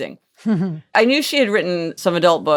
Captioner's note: laughing